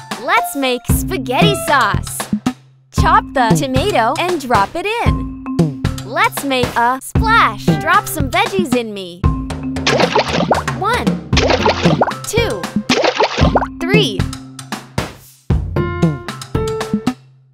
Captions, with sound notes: Let's make spaghetti sauce. Chop the tomato and drop it in. Let's make a splash. Drop some veggies in me. (water splashing) One. (water splashing) Two. (water splashing) Three. (upbeat music)